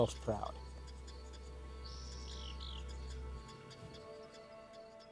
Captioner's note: birds chirping